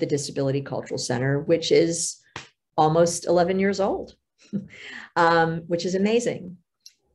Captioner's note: laughs